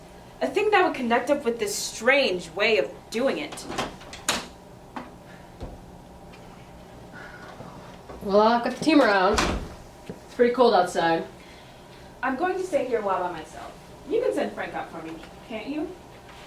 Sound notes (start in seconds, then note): 3.6 door opens